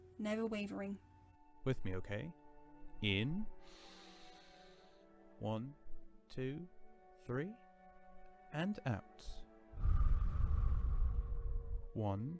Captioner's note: Sirius exhales slowly